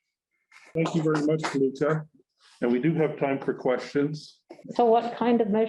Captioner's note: clapping sound